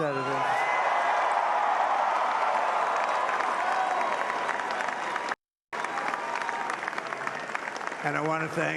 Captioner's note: applause